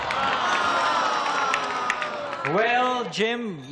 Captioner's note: audience groaning